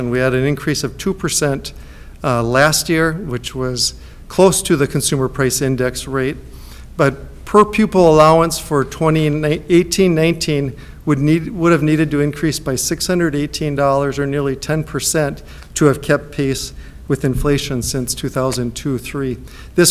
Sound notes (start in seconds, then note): none